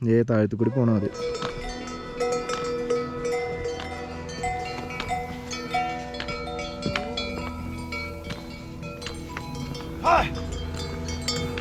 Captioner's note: cow bells